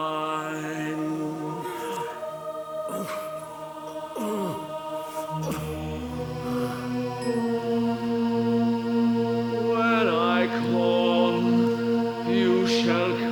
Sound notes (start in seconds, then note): 0.0 singing; 2.5 Dracula groans in ecstasy and pain; 9.6 singing